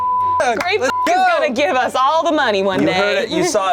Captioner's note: beep